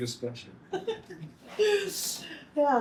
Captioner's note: laughing